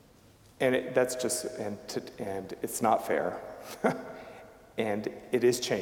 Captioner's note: chuckling